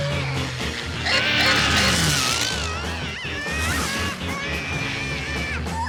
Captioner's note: toy plane whirring; scared whine; Milo screaming